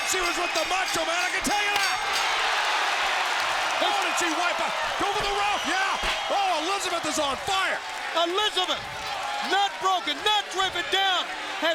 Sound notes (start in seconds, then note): 2.5 crowd cheers